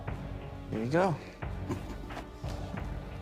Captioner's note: laughing